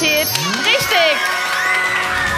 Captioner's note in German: Jubel